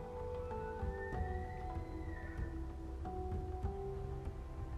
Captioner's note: faint elk bugling